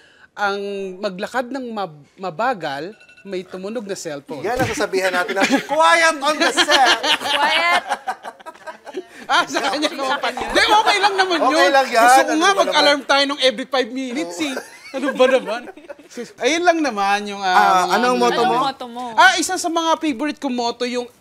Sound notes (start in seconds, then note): 2.8 phone rings; 7.1 laughing; 14.2 laughs